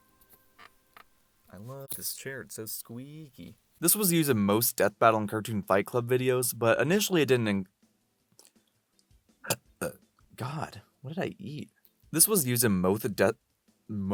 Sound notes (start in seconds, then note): 9.4 burp